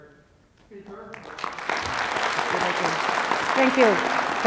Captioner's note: audience applauding